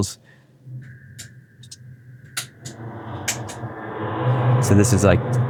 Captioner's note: switches flipping